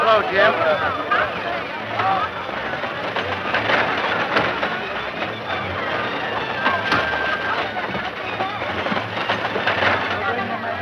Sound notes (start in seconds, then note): 2.2 crowd chattering